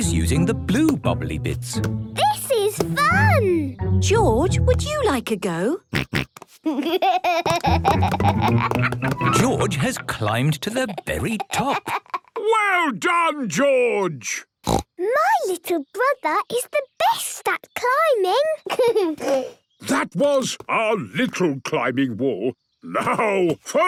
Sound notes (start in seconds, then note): 6.0 snorts, giggles; 14.6 snorts; 18.6 giggles